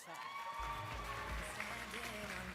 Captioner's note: applause and cheering